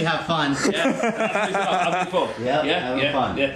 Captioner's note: laughs